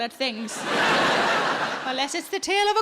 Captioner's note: audience laughs